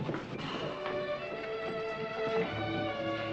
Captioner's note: sighs